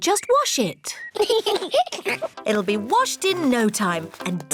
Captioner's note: both giggle